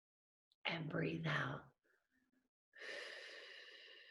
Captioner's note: exhaling